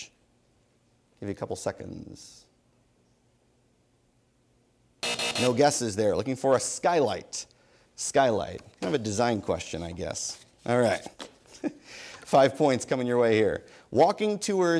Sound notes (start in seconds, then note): 5.0 buzzer sounds; 11.4 laughs